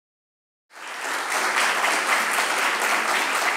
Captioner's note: applause